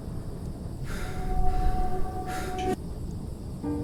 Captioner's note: heavy breathing and ringing